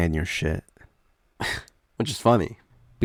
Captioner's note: scoffs